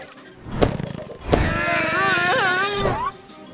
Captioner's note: grunting